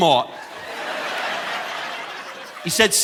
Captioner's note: audience laughing